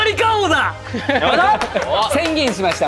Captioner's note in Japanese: 笑い